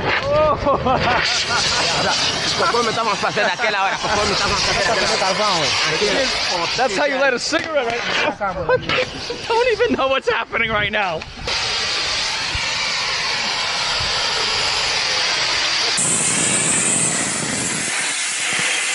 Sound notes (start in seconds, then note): 0.0 torch lighting; 0.4 laughing; 2.9 speaking Portuguese; 6.0 torch flaring; 8.0 laughing; 11.0 torch flaring; 16.0 torch cutting